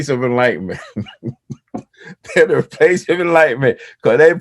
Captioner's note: laughs